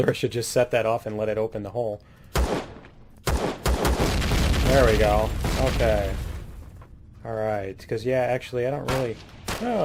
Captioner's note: laughs; explosion; turret firing